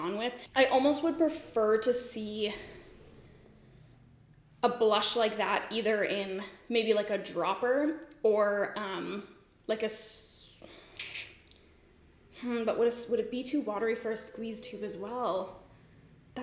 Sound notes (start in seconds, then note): 10.9 sucks teeth